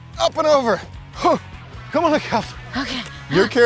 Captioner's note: grunting